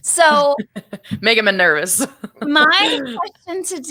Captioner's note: laughs